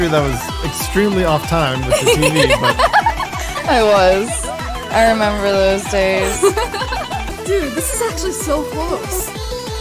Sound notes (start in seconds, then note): 1.9 laughs loudly